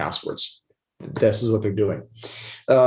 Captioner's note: sniffles